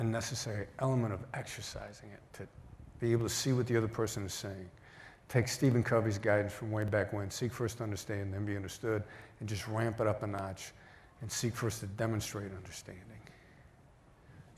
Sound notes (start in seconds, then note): none